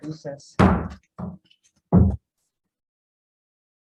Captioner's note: gavel banging